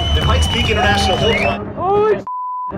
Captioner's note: crowd cheers